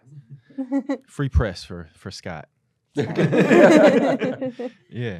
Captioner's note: laughter